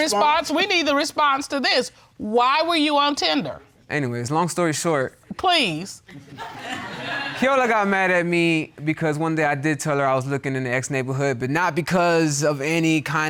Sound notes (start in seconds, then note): 6.2 audience laughs